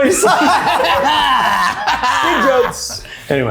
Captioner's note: everyone laughing